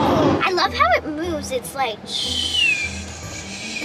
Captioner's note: whistling